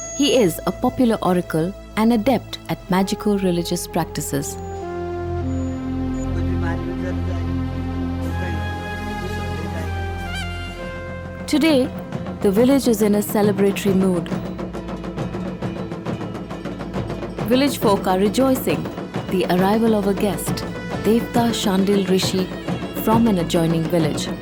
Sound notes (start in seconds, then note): 6.1 indistinct conversation; 6.1 soothing music; 14.5 bells jingling; 14.5 intense drumming